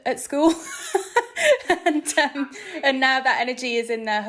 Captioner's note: laughing